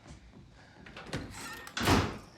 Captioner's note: door Slams